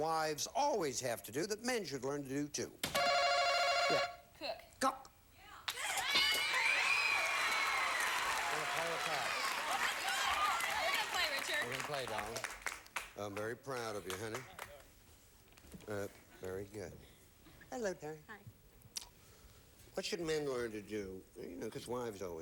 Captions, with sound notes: Name something wives always have to do that men should learn to do, too. Yeah? Cook. Cook? [audience applauding] Gonna play or pass? Play! Play! We're gonna play, Richard. They're gonna play, darling. Okay. I'm very proud of you, honey. Very good. Hello, Terry. Hi. What should men learn to do